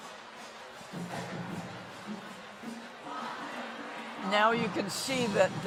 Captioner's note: crowd chattering distantly